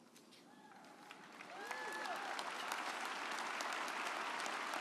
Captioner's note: audience applauding